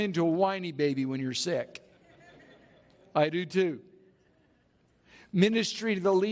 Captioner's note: laughs From The Audience